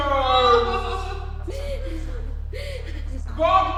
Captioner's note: Amy wailing